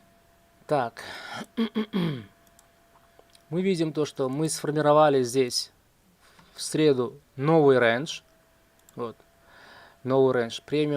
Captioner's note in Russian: тяжело вздыхает